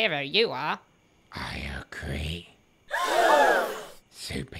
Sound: collective gasp

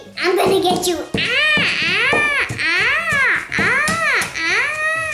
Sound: screaming

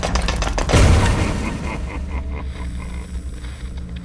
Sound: silent pirate laughing

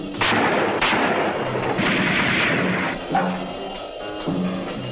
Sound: gunfire continues

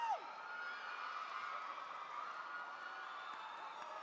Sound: cheering

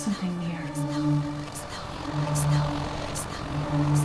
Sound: whispers continue

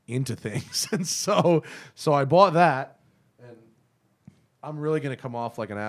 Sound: laughter

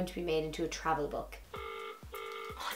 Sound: phone rings

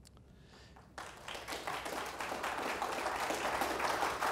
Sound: audience applause

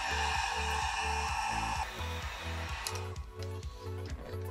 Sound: heat gun running

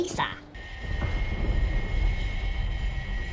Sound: thunderclaps

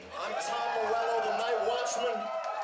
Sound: cheers

